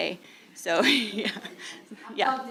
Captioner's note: laughing